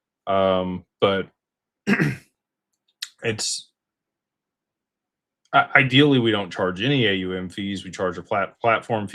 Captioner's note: clears throat